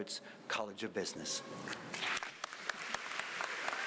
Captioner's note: applause